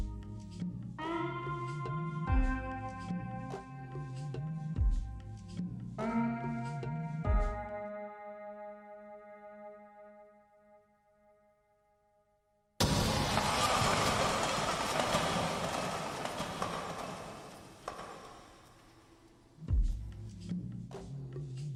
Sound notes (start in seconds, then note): 0.2 light music; 11.0 glass shattering; 19.6 light music